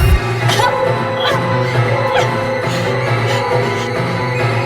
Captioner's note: Jack grunting; dramatic music; Vanessa grunting